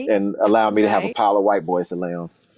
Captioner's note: whooshing sound